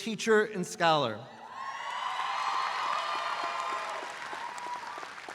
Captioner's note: audience applauds